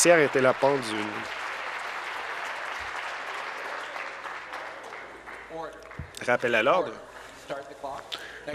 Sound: some Applause

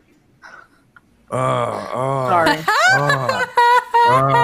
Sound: chuckles

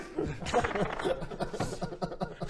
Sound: laughs

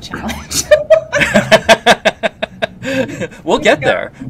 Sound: laughs

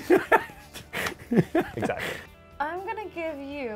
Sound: RP Man laughs

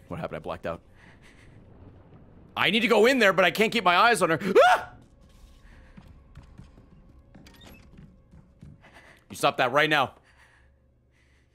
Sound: screams

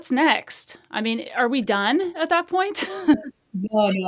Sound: chuckles

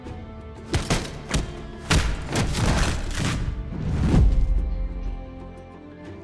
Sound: sounds of maiming, pistol-whipping, and murder

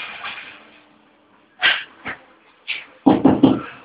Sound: knocking on the door

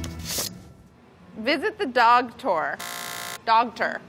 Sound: buzzer sound

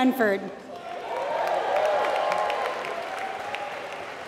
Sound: applause

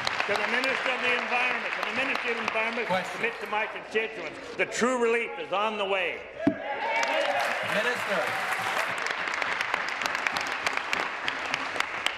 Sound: applause

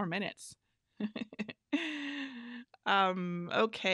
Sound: laughs

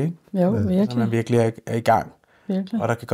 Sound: none

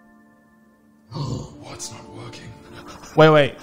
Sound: gasps

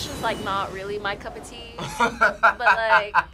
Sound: laughs

